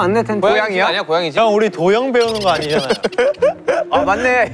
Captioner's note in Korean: ㅋㅋ